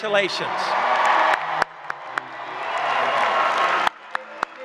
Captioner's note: applause